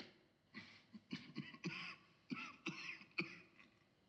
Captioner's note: coughs